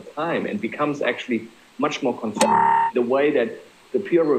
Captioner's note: microphone screeches